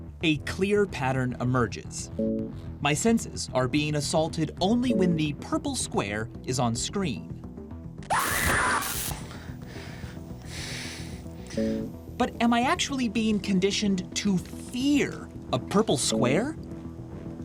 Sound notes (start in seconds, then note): 8.0 recorded scream; 8.2 electricity crackles; 9.2 breathing heavily